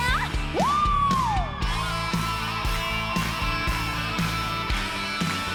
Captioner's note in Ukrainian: оплески